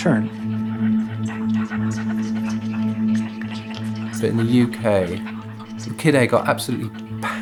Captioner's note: soundbite of people whispering